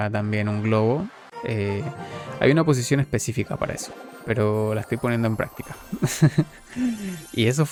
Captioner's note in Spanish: risas